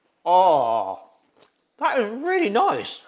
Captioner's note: chip crunching; host moans